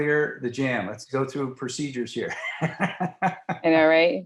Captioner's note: laughing